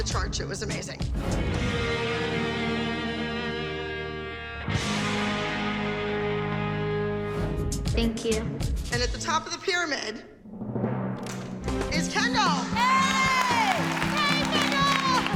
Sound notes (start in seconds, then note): 12.7 cheering